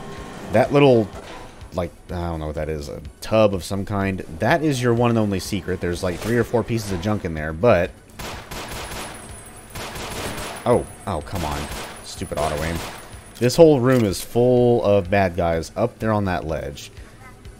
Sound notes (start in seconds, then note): 8.1 gunfight ensues